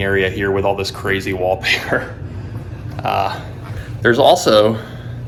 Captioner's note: laughing